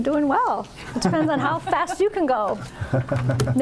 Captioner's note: laughter